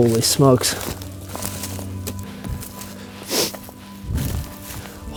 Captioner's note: sound of walking